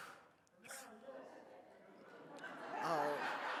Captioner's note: sighs; audience laughs